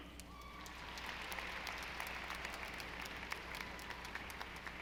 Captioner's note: audience applauding